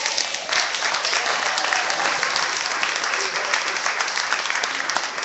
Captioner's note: clapping